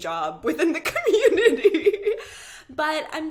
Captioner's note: laughing